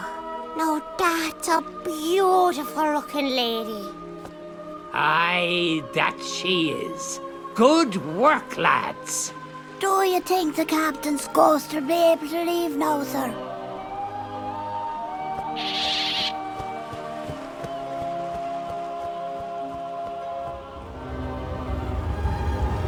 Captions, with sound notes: Now that's a beautiful looking lady. - Aye, that she is. Good work, lads. - Do you think the captain's ghost will be able to leave now, sir? (pelican squawks)